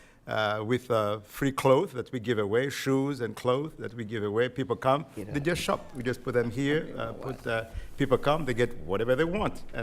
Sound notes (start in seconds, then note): 5.3 speaking quietly